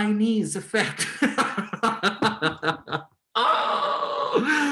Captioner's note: Helmer laughs